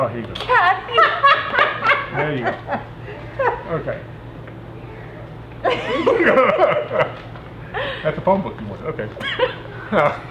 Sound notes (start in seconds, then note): 0.6 laughs; 5.6 all laughing